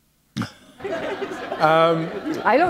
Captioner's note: laughter